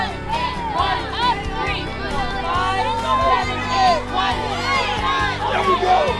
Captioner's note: cheering